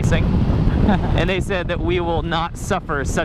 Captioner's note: laughs